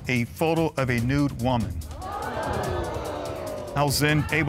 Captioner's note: audience gasping